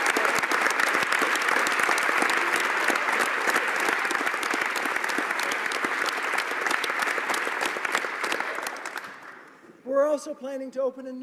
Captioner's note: applause